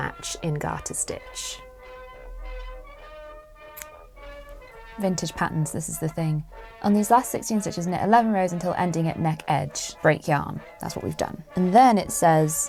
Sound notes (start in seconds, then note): 2.4 scissors snip